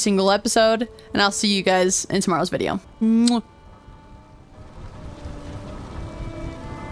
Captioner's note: kiss